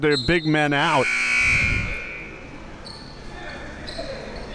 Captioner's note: buzzer buzzing